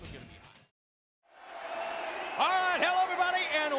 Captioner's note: crowd cheering